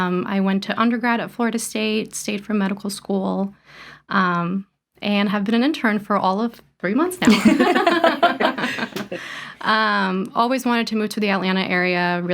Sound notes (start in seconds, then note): 7.2 all laugh